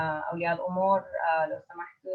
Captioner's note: in foreign language